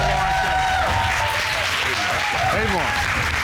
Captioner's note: audience cheering